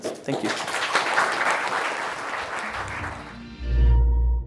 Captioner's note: applause